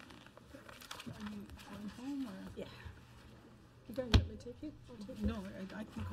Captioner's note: overlapping chattering